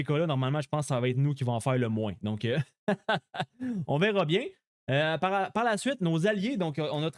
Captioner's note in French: rires